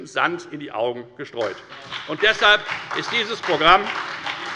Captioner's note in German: Beifall bei der FDP und bei Abgeordneten der SPD